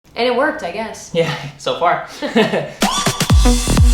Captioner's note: laughs; electronic music